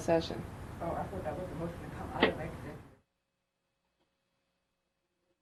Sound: faintly speaking

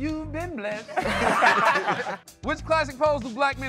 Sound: laughter

